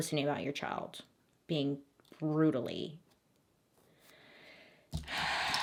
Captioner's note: sighs